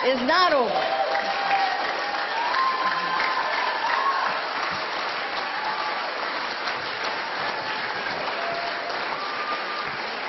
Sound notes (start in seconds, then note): 7.9 applause